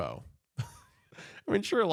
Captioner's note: laughs